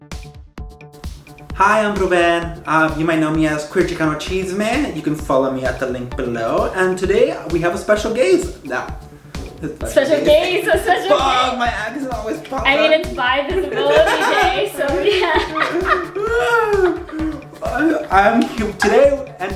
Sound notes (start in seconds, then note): 13.7 laugh